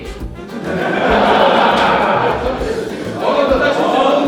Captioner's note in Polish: śmiech